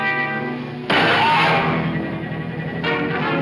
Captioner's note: gun bangs